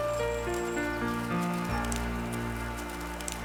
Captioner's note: birds chirping